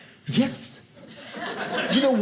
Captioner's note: audience laughing